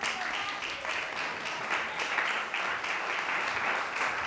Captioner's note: audience applauding